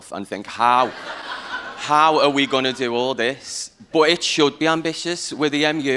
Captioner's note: laughter